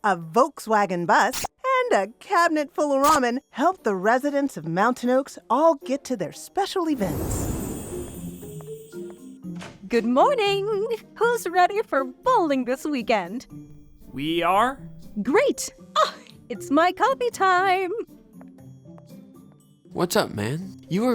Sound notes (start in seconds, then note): 10.0 pleasant music; 13.6 unenthusiastic